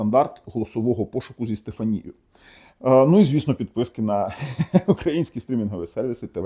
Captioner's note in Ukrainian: сміх